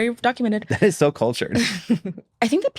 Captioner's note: chuckles